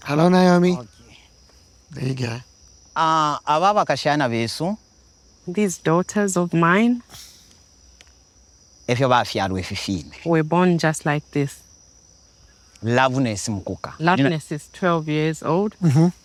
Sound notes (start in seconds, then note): 3.3 father speaking in foreign language